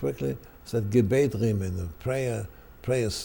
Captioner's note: speaking German